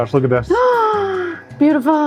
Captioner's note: gasps